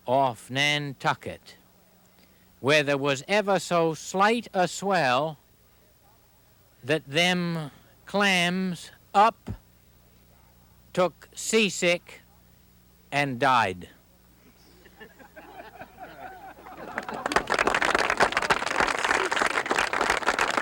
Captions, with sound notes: off Nantucket where there was ever so slight a swell that them clams up, took seasick and died. (audience chuckles) (audience applauds)